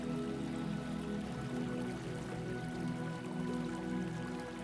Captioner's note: gentle music; water trickling